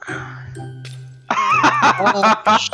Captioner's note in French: rires